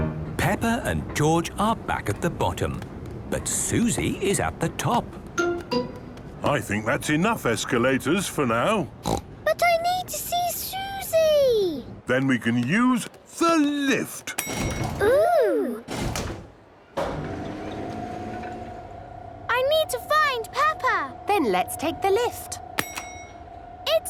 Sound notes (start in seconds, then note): 14.4 lift pings; 16.9 lift moving; 22.2 lift pings